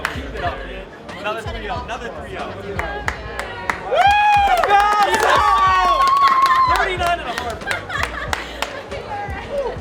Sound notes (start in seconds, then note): 3.3 cheering; 8.0 laughs